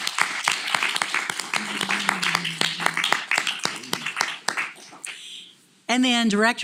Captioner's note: applause